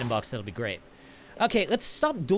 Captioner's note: inhales